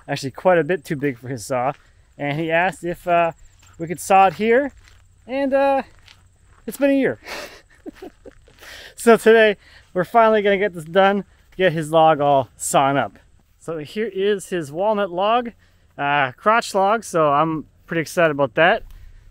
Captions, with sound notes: actually quite a bit too big for his saw, and he asked if we could saw it here, and it's been a year. (laughing) So today, we're finally gonna get this done, get his log all sawn up. So here is his walnut log, crotch log. So, I'm pretty excited about that.